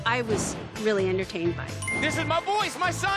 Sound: chime

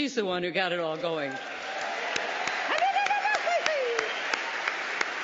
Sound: applause

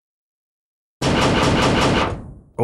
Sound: knocks heavily on gate

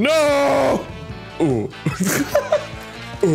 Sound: laughing

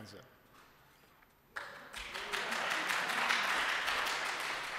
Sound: applause

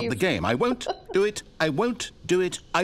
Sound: laughter

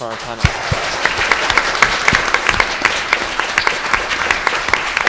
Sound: audience applauds

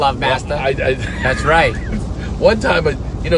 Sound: laughs

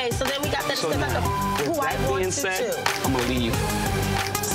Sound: beeps

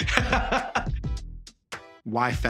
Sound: laughing

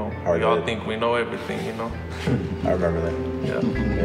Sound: men chuckling

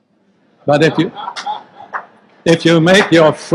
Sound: group laughs

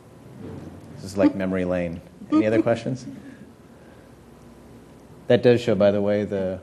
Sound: laugh

